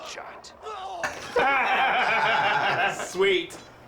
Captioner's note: laughing